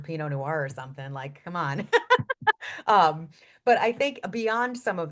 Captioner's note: laughs